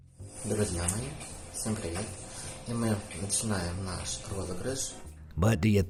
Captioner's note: speaking in foreign language